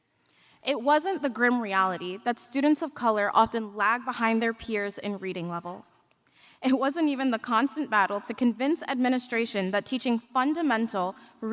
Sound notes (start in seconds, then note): none